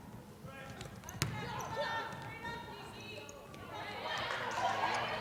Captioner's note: crowd cheering